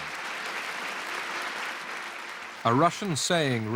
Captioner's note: applause